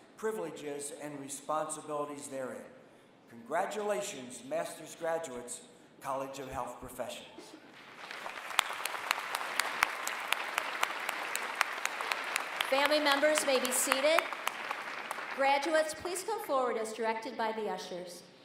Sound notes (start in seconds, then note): 7.8 applause